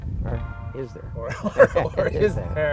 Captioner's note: laughs